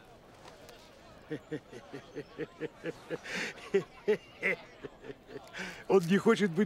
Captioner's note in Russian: раздается смех